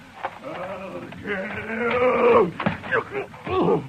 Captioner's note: screaming